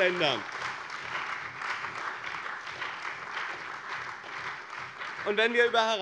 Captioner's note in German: Beifall bei dem BÜNDNIS 90/DIE GRÜNEN und der CDU